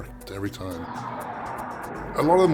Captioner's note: jet engines